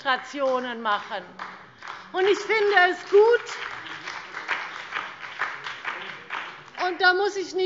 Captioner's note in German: Beifall BÜNDNIS 90/DIE GRÜNEN und SPD